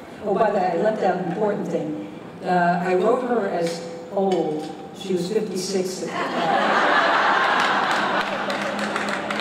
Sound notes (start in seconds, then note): 6.1 laughter